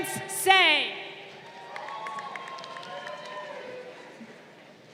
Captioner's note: crowd cheering